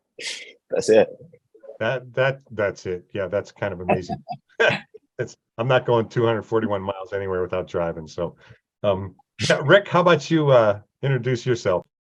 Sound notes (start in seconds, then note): 3.9 laughs; 3.9 chuckles